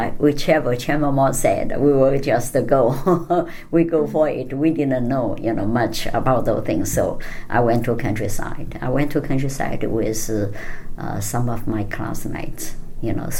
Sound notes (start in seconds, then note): 2.8 laughs